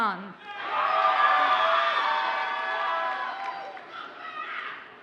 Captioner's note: audience cheers and applauds